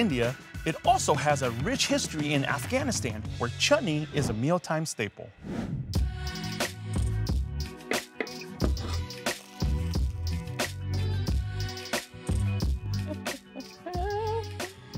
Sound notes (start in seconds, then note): 5.4 air whooshing; 6.0 mellow synth music; 8.8 herbs crunching; 13.0 person laughing